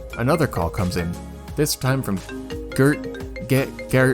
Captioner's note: phone rings; phone rings